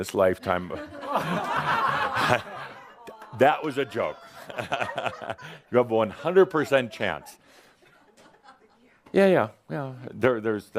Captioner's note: laughter and groans